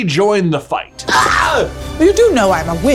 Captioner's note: yells